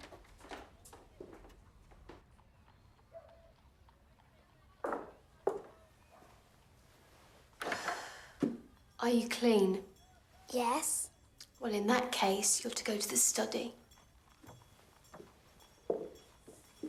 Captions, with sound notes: [sighs] Are you clean? Yes. Well, in that case, you're to go to the study.